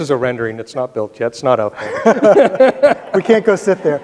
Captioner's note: both laughing